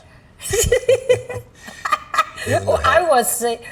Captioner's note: laughs